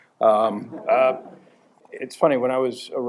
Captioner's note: chuckles